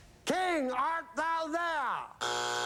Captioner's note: buzzer